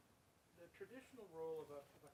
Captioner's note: voiceover